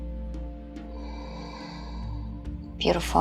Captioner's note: exhaling